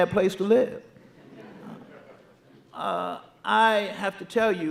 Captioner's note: audience laughing